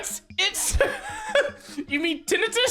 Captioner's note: exhales phlegm